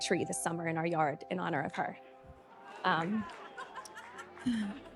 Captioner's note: audience exclaiming; inspiring music continues